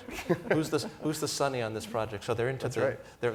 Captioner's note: laughter